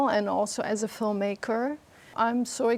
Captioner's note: none